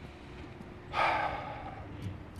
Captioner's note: SlGHS